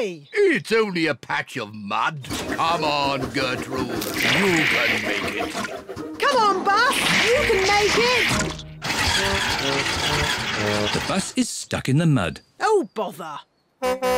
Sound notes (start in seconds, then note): 9.1 engine stalls